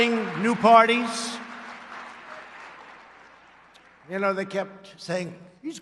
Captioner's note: applause